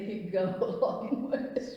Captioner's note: laughs